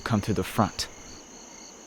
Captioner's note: crickets chirp